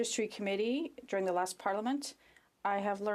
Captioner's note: speaking French